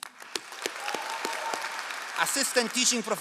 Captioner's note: all applauding